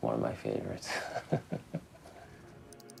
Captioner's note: chuckles